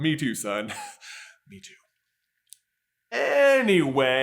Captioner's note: chuckles